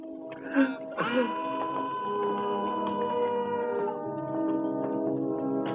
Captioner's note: man yells